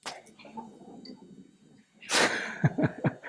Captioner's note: laughter